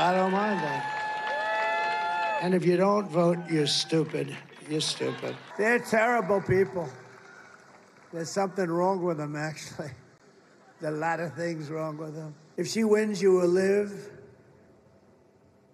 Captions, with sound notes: WOULD HAVE TO SHOOT THROUGH TH FAKE NEWS, AND I DON‘T MIND FAKE NEWS, AND I DON‘T MIND THAT SO MUCH. THAT SO MUCH. >> [ LAUGHTER ] >> [ LAUGHTER ] >> I DON‘T MIND. I DON‘T MIND >> I DON‘T MIND. I DON‘T MIND THAT. THAT. >> [ CHEERING AND APPLAUSE ] >> [ CHEERING AND APPLAUSE ] >> AND IF YOU DON‘T VOTE, >> AND IF YOU DON‘T VOTE, YOU‘RE STUPID. YOU‘RE STUPID. YOU‘RE STUPID. YOU‘RE STUPID. THEY‘RE TERRIBLE PEOPLE.